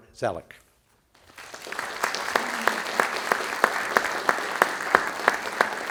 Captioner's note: audience applauding